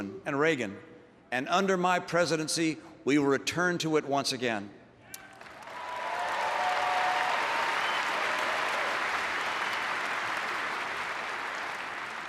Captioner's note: applause